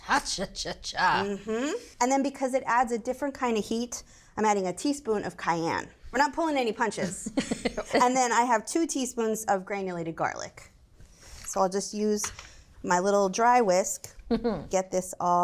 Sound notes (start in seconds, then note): 7.1 laughs; 14.3 chuckles